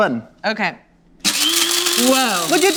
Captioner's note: grinding